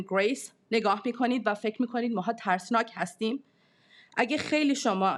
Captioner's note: speaking in foreign language